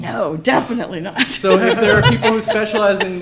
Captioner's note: laughs